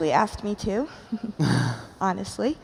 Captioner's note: chuckles